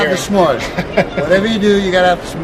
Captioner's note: laughs